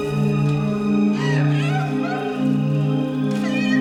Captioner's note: crying